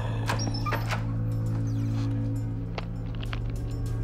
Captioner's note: door opens